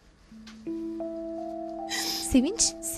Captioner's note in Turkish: Ağlama sesi